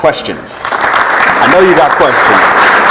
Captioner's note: audience clapping